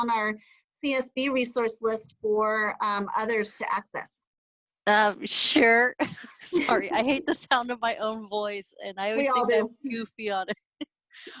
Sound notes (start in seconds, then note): 6.5 laughter